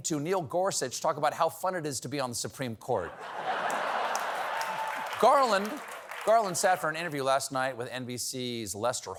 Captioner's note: laughter